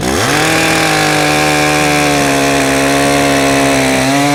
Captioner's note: chainsaw sounds